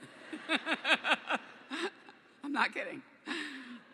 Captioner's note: laughter